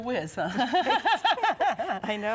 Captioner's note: laugh